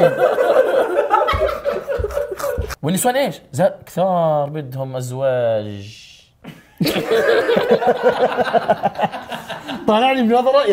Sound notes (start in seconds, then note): 0.0 everyone laughs; 6.4 chuckles; 6.5 everyone laughs